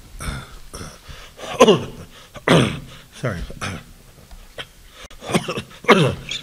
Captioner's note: coughing